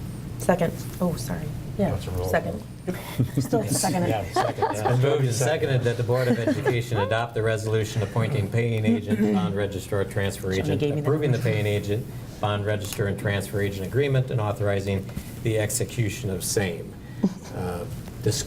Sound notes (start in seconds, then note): 3.0 laughter